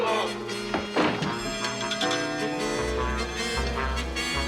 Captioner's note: groans; clock chimes; tense music